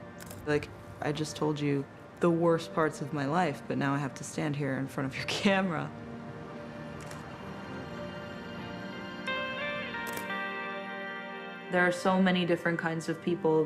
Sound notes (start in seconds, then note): 6.9 camera shutter clicking